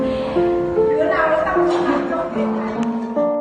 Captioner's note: laugh